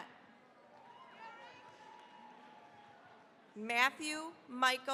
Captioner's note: cheering, applause